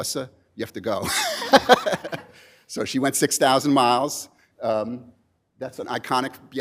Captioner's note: laughs